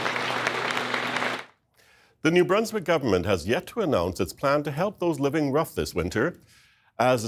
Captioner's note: applause